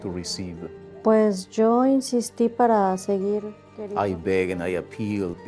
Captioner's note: woman speaks Spanish